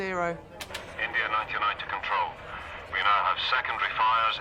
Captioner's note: man over radio